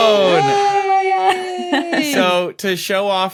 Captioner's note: cheer